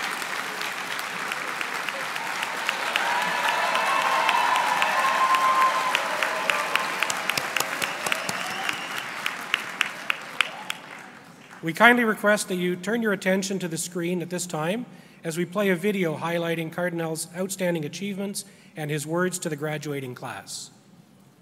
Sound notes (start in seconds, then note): 0.0 applause; 6.4 cheering